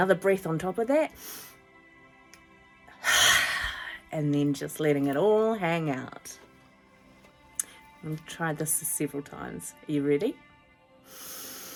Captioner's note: breathes in